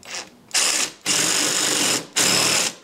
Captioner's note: jigsaw chatters